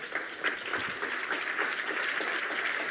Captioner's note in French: Applaudissements